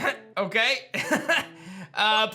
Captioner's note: laughs